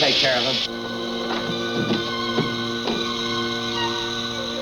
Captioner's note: gas hissing